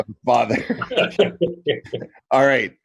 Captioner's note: laughs